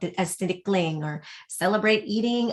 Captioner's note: speaking foreign language